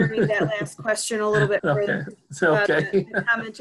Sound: chuckling

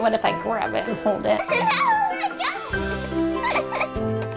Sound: giggling

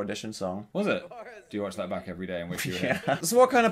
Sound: laughing

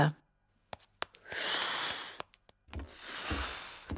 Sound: blows; continues blowing

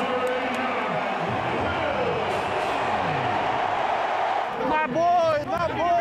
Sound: speakers blaring and crowd cheering

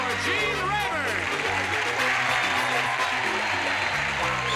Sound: applauding

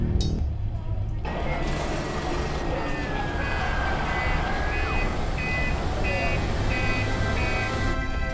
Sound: dockside noises; incidental music

